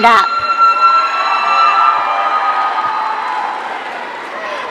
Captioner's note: audience cheering